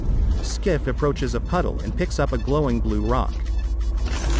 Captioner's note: meter beeping rapidly